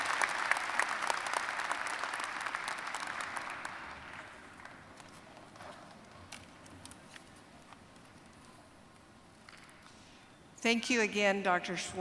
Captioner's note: applause